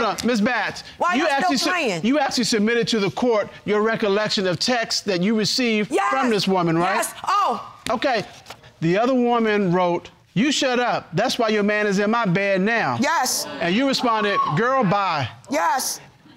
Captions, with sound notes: Hold up. Ms. Batts, you actually submitted to the court your recollection of texts that you received from this woman, right? Yes, yes. (EXCLAIMS) Okay. The other woman wrote, "You shut up. "That's why your man is in my bed now." Yes. And you responded, "Girl, bye." Yes.